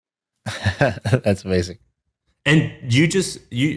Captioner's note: laughs